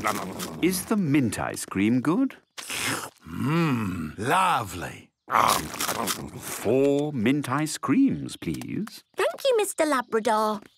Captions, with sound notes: - Is the mint ice cream good? - (slurps) Mmm... Lovely. Umm, num, num... - Four mint ice creams, please. - Thank you, Mr. Labrador!